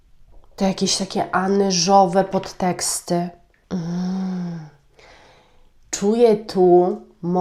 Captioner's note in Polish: westchnienie